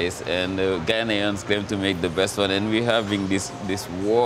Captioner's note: none